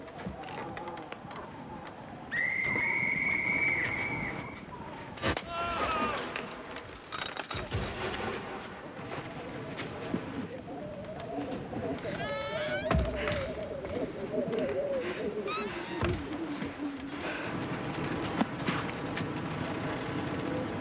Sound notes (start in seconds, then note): 0.0 wind howling; 2.3 whistle blows; 5.1 gunshot; 11.8 creaks